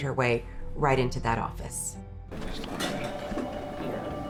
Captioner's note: phone rings